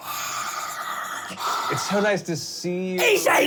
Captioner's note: heavy breathing